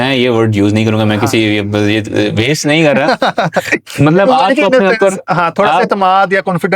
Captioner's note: laughs